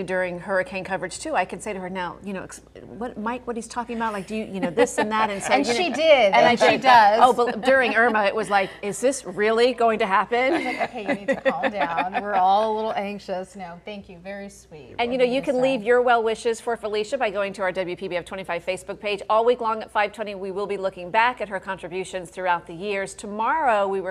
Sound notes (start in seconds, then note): 10.4 laughter